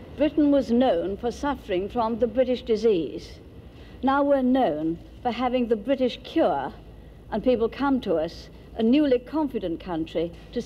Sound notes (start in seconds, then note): none